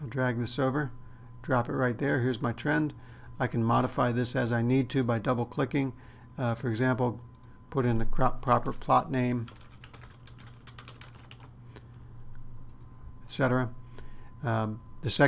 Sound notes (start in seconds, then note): 9.4 typing